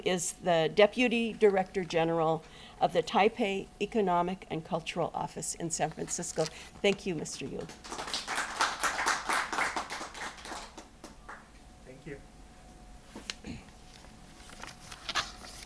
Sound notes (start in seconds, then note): 7.5 applause